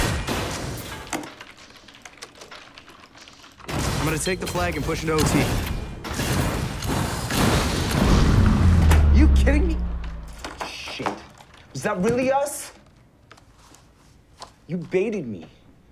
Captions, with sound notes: (guns firing) I'm gonna take the flag and push into OT. (bombs exploding) (keyboard slamming) You kidding me! - Shit. Was that really us? You baited me.